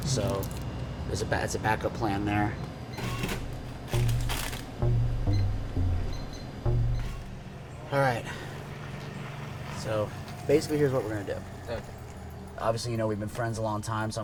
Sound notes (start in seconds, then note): 3.3 register whirs; 4.7 soft electronic music; 4.8 register beeps